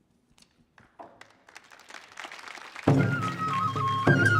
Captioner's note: audience clapping; upbeat Japanese folk music